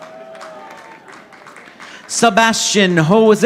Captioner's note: audience applauding